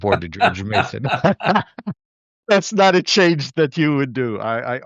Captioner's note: laughter